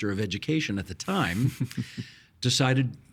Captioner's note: chuckling